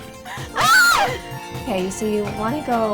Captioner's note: screaming